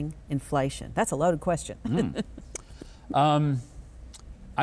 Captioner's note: laughs